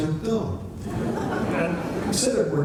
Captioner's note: laughter